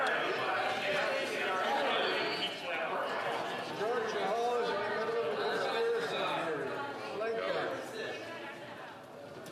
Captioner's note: some Applause